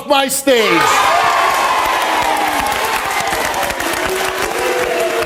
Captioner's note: audience cheers and applauds